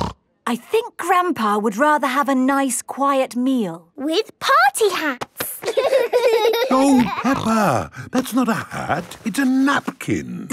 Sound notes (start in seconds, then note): 5.5 laughing